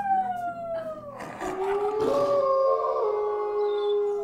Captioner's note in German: Geheul